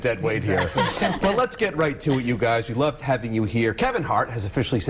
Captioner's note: laughter